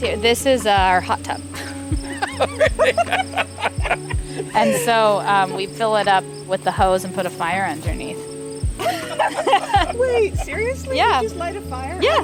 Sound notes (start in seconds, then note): 1.5 everyone laughs; 8.8 everyone laughs